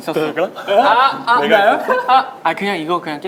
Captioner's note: laughing